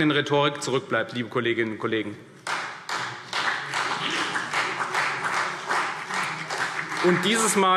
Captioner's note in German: Beifall CDU und BÜNDNIS 90/DIE GRÜNEN